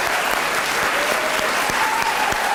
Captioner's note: applause